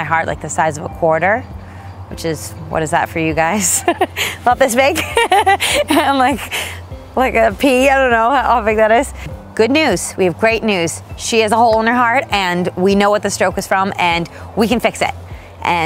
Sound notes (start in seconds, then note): 4.9 laughing